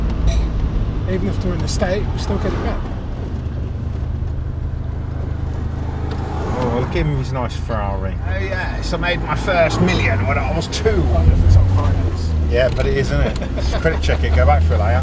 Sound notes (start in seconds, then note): 9.3 imitating upper class voice